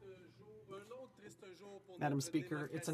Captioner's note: speaking French